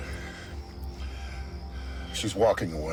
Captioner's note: Aaron panting